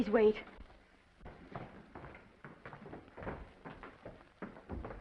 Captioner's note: footsteps approaching